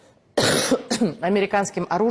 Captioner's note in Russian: мария ситтель кашляет